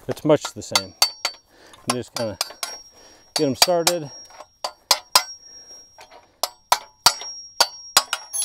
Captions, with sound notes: it's much the same. (hammer clanging) And you just kinda get 'em started. (hammer clanging)